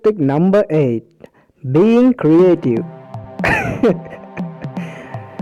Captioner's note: laughs sarcastically